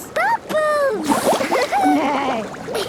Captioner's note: giggling; giggling, neighing